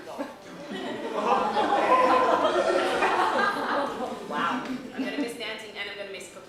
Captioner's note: laughter